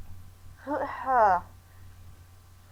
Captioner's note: stammery, stammeroo